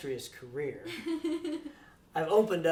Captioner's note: laughs